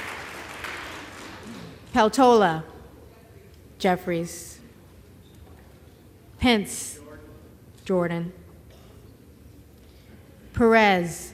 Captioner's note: applause